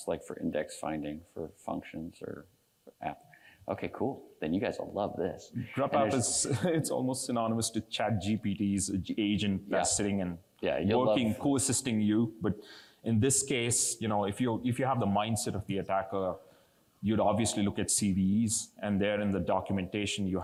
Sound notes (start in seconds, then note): 5.5 laughs